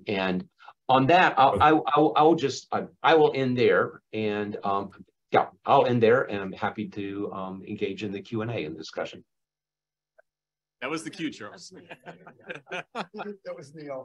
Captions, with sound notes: and, on that, I will just -- I will end there and yeah, I'll end there and happy to engage in the Q and A and discussion >> That was the cue. (Laughter.) >>